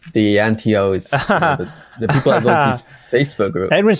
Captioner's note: laughs